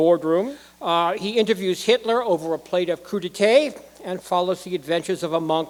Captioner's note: none